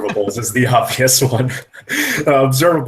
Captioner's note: laughs